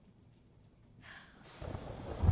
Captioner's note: sighs